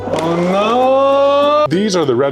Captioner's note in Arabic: يصرخ بصوت عال